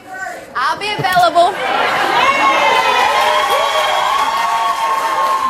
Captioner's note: audience cheers